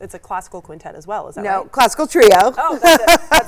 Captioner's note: laughs